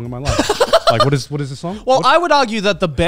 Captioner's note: laughing